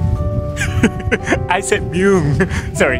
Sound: laughs

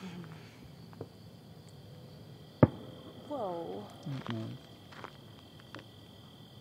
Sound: cracker exploding

